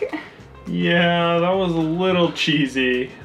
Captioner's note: none